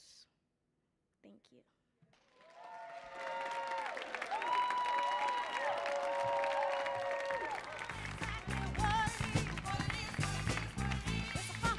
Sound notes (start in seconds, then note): 2.2 audience cheering and applauding